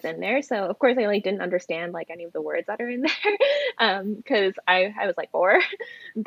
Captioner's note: laughs